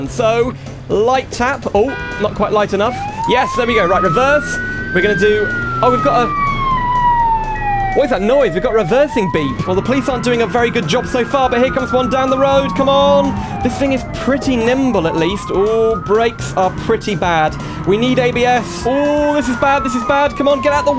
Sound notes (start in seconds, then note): 7.4 reversing Beeps